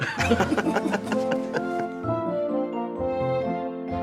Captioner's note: laughter